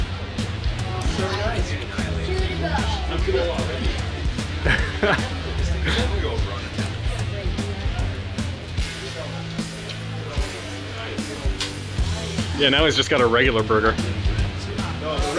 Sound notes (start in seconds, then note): 4.4 laughing; 4.8 rock music